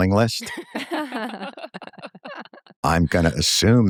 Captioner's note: laughter